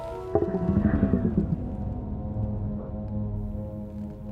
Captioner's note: soft static noises